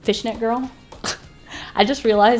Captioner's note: sniggers